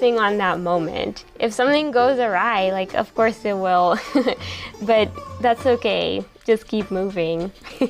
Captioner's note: laughs